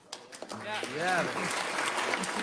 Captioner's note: audience applauds